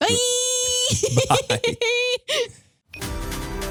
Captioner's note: both narrators laughing